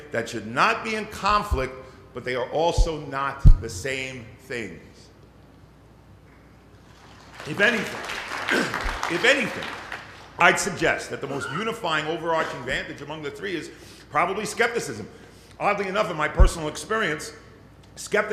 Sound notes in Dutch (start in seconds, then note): 6.8 Applaus